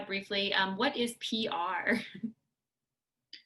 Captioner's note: laughter